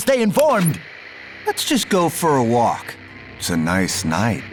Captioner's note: TV crackles